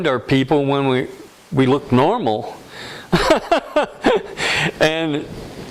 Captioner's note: laughter